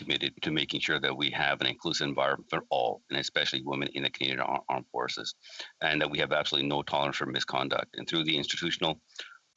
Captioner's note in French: voix de l'interprète